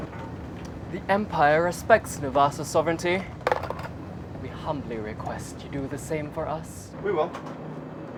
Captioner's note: coin clatters